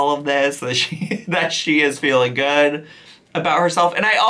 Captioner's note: chuckles